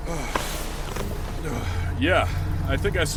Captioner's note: catching his breath